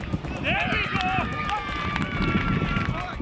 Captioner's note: cheering